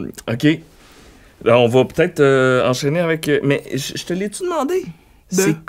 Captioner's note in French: none